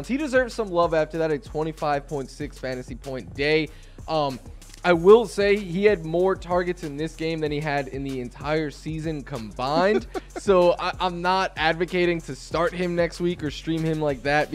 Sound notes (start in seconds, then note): 9.7 laughs